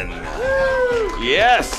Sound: cheering

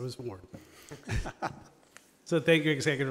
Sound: light chuckling

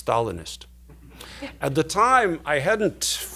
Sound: laughing

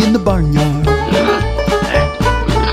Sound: pigs oinking

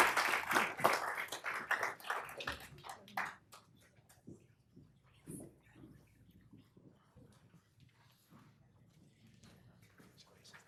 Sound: applause

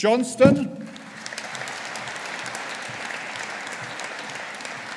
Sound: audience applauding

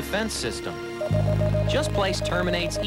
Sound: morse code-like beeping

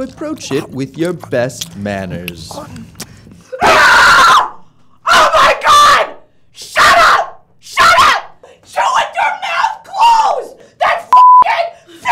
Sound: screams

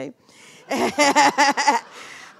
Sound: laughing

